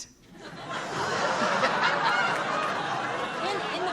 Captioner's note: laughter